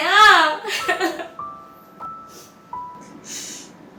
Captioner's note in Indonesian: Tertawa sedih